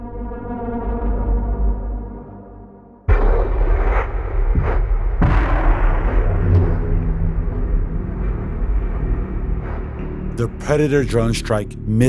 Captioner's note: soundbite of missiles striking